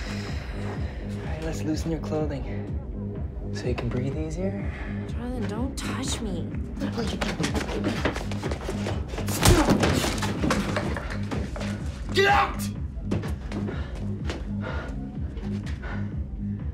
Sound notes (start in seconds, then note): 9.0 hard punching